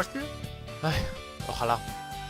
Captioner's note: sigh